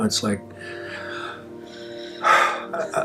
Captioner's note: deep breath